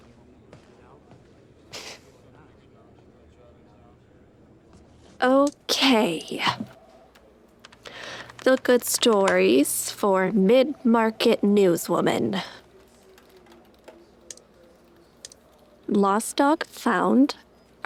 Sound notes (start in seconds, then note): 1.3 sighs